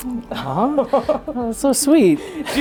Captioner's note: all chuckling